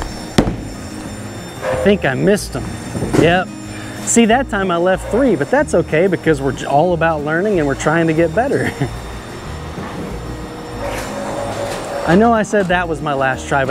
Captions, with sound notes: (bowling ball thuds) I think I missed them. Yep. See that time I left three. But that's okay because we're all about learning and we're trying to get better. (chuckles) I know I said that was my last try,